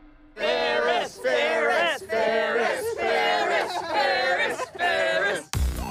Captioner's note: crowd